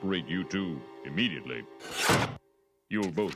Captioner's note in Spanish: golpe sordo de guillotina